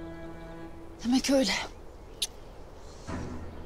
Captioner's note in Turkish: Öpücük sesi